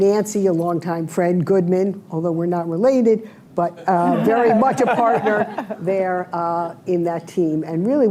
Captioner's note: laughter